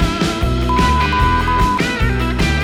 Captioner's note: swearing